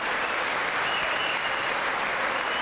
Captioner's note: applause